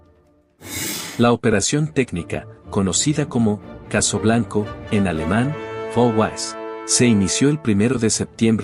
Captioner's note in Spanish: en alemán, Fall Weiss